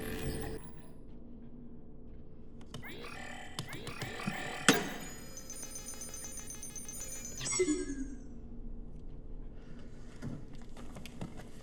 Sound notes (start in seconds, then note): 0.0 digital error noises; 2.8 repeated error noises; 2.9 slamming keys; 4.7 hefty smack; 5.5 computer calculating; 7.4 sad failure noise